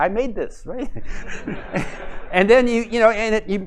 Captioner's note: laughter